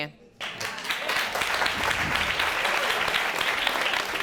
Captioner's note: audience applauding